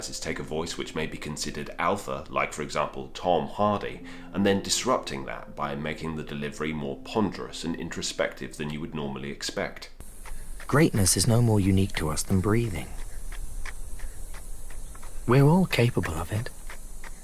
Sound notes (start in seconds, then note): 10.6 voiceover; 13.7 shoes pattering; 17.0 shoes pattering